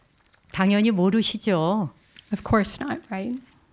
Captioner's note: speaking in Korean